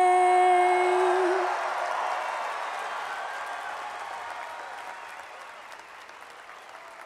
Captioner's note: cheering and applause